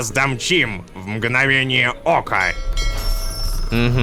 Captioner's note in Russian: Звук корабельного колокола